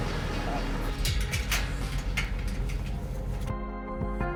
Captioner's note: gate opening